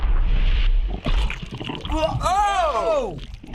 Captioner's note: in game: gurgling